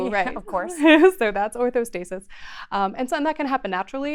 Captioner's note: laughs